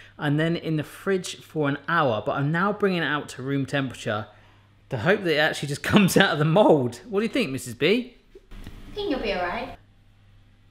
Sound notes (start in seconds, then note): none